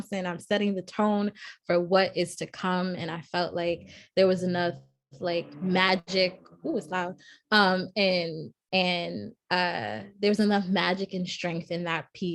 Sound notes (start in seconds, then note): 6.9 car engine